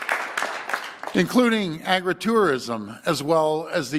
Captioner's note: applause